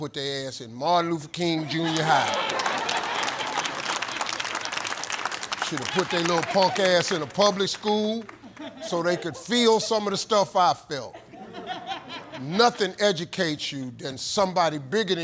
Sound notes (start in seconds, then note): 1.5 audience laughs and applauds